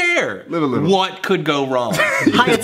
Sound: chuckles

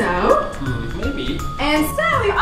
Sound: voiceover

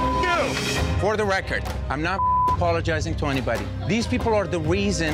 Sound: beep; beep

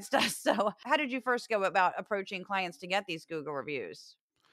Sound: laugh

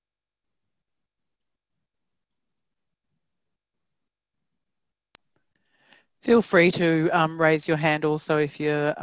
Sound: pause

